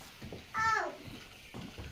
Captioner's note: child screaming